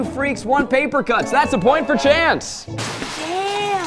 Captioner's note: horn honking